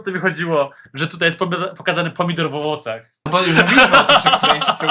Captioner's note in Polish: śmiech